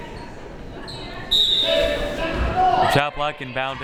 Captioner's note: whistle